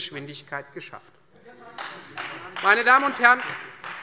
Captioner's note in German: Beifall Freie Demokraten